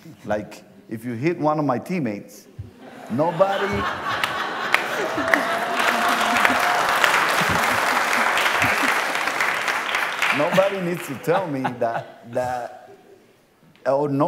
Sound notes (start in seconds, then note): 4.6 laughter; 7.0 applause